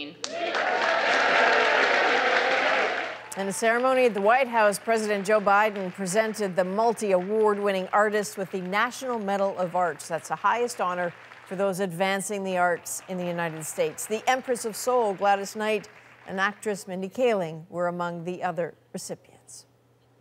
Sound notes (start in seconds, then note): 7.0 applause